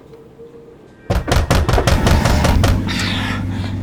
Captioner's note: loud banging